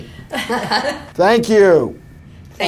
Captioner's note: chuckle